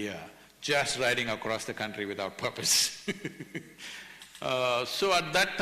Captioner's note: laughter